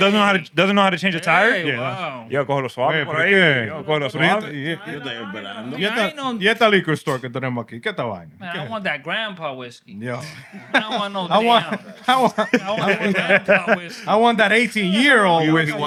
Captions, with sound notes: doesn't know how to change the tire. Hey, wow. You're going to swap it for her? Yeah, you're going to swap it. (Speaking Spanish) I want that grandpa whiskey. Yeah. I don't want no damn. I want that 18-year-old whiskey.